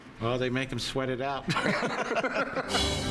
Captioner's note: laughs